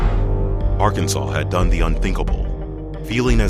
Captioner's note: voiceover